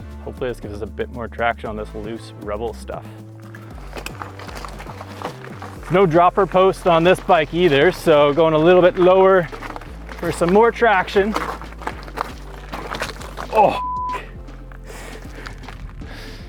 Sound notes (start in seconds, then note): 13.7 beep